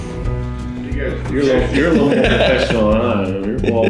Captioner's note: laughs